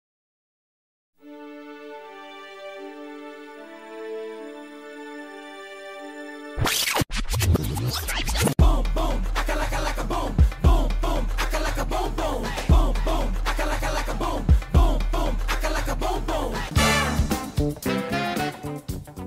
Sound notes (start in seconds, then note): 6.6 tape rewinds; 8.1 upbeat music plays